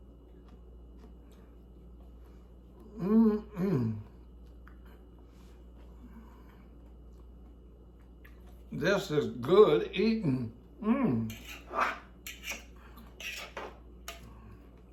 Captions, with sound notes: this is good eating. (fork scratches)